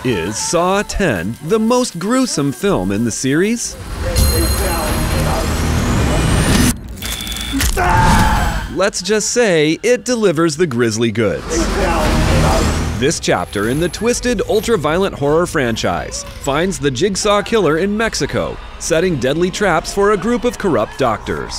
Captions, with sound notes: Is Saw X the most gruesome film in the series? [Screaming] Let's just say it delivers the grisly goods. This chapter in the twisted, ultra-violent horror franchise finds the Jigsaw killer in Mexico, setting deadly traps for a group of corrupt doctors.